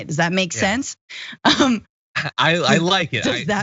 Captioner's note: laugh